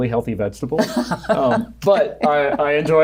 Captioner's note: laughing